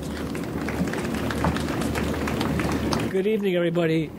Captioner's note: audience applauds